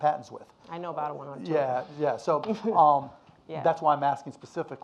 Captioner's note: laughs